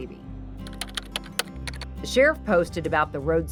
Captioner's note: keyboard clacking